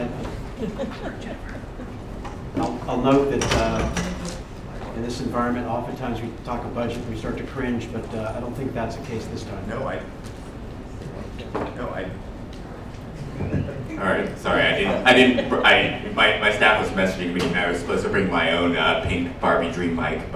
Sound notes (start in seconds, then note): 13.2 laughter